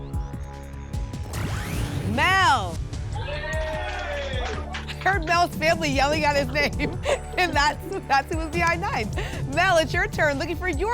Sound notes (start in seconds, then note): 3.0 applause and cheering